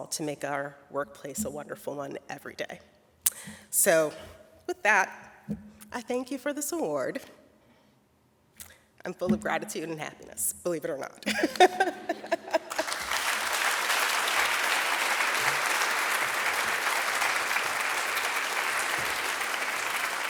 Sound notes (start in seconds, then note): 11.3 laughs; 12.5 audience applauding